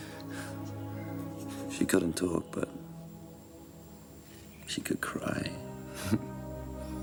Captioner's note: laughs